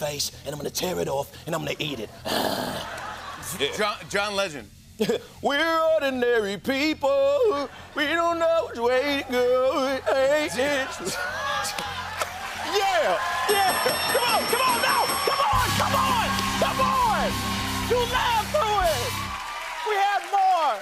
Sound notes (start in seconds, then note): 11.0 laughter; 12.0 normal voice; 13.5 bell dinging